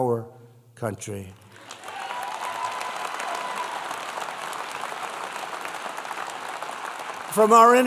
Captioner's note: applause